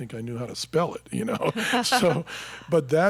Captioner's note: both laughing